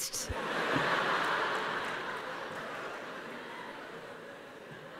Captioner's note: laughter